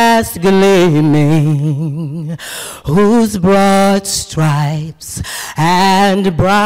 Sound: none

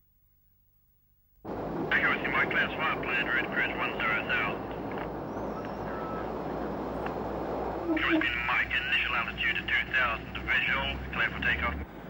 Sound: radio chatter

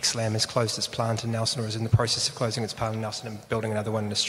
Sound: murmurs

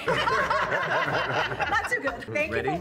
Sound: group laughs

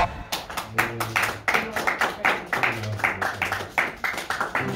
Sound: audience applauds

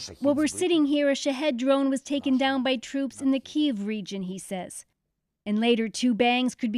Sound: speaking alternate language

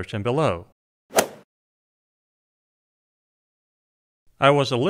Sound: golf swing sound effect

